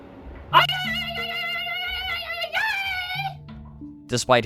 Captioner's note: weak ululating